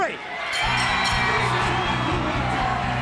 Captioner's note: bell ringing